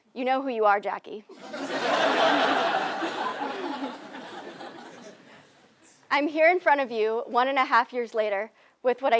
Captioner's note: laugh